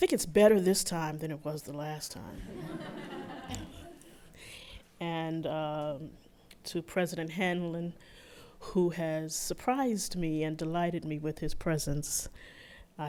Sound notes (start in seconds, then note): 2.4 laughter